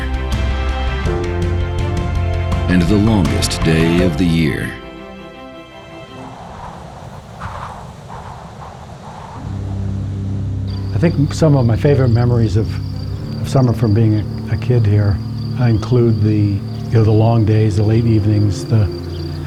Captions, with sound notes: and the longest day of the year. (wind howling) (wistful music) - I think some of my favorite memories of summer from being a kid here include the, you know, the long days, the late evenings,